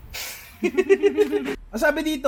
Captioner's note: laughter